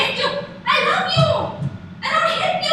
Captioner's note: heartbeats